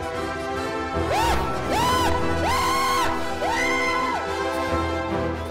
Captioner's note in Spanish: grito